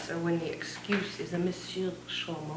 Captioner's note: speaks foreign language